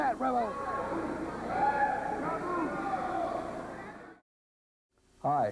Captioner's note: crowd cheering